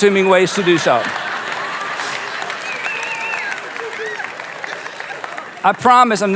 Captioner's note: audience laughs and claps